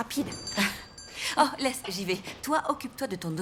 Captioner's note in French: sonnerie de la porte